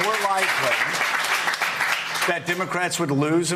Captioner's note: applause